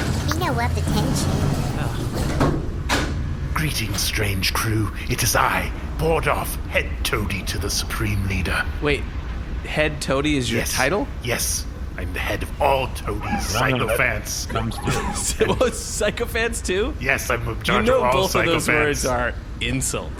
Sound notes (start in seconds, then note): 3.5 doors and hatches opening